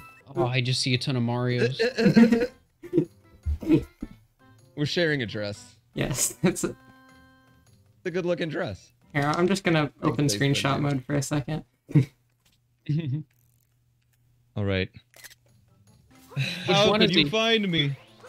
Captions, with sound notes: Ah I just see a ton of Marios [Strange giggle] Ah I just see a ton of Marios [Strange giggle] [Giggle] [Strange giggle] [Giggle] We're sharing a dress Yes, that's a... It's a good lookin dress Here, I'm just gonna open screenshot mode for a second [Giggle] Alright [Screenshot Click] Alright [Screenshot Click] Alright [Screenshot Click] [Screenshot Click] How did you find me?